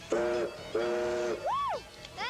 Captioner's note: train whistle blows